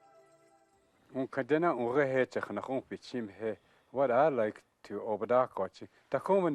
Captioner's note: speaking Dakota